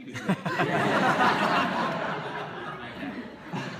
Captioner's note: laughter